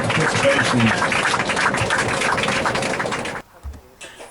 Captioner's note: applause